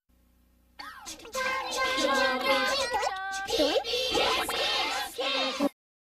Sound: various kid chattering

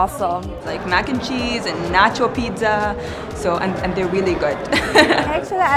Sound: laughter

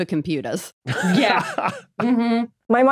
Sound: laughs

